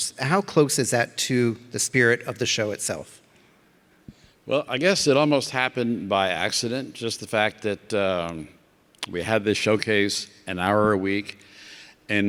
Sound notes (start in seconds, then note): none